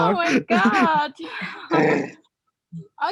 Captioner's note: giggling